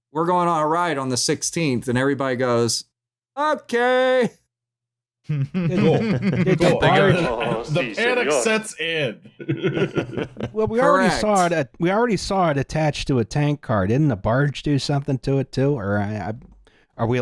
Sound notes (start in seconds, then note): 5.3 laughter; 10.0 chuckles